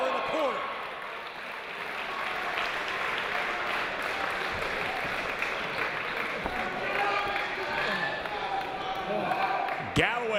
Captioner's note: applause